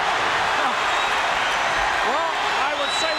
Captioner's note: audience cheering